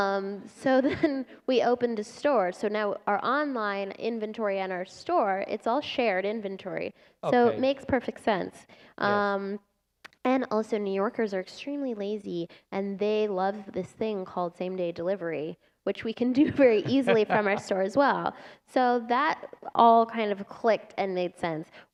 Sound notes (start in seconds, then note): 16.4 laughter